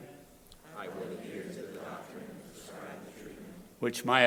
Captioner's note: crowd repeating